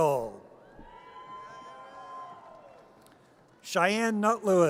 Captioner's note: audience cheers